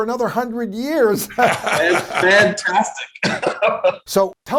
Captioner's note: laughing; Tony laughing